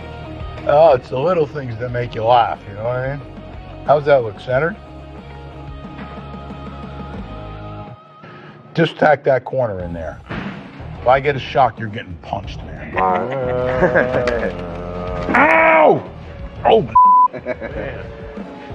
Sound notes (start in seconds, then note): 12.8 chuckles; 15.7 groans